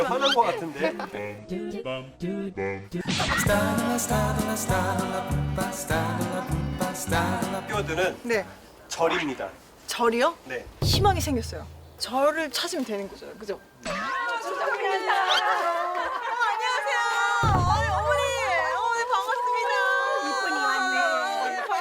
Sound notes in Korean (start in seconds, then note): 17.5 우르르르